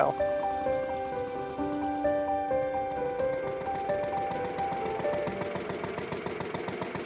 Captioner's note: light music continues; car engine rumbling